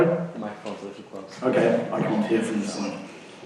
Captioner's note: voiceover